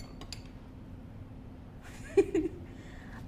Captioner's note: laughs